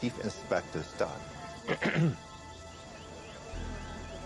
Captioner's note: man clears throat